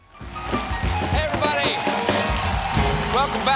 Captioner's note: applause